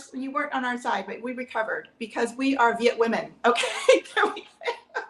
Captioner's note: laughs